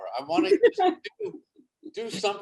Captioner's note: David laughs